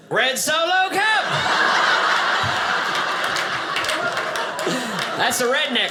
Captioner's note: audience laughing